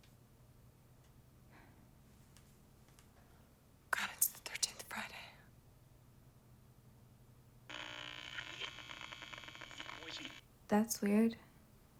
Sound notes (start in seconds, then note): 7.7 radio static crackles